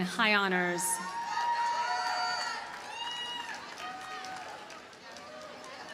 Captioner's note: audience cheers and applauds